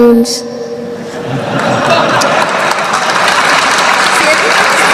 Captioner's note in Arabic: ههههههههه